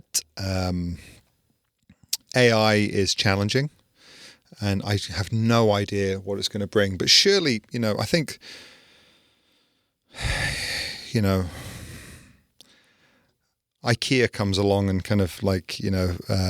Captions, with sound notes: But AI is challenging, and I have no idea what it's gonna bring, but surely, you know, I think, (sighing) IKEA comes along and kind of like, you know,